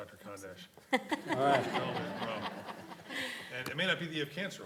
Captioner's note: audience laughing